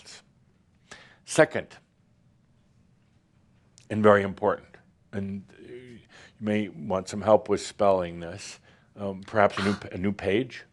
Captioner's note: scoffs